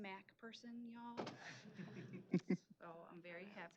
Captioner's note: laughter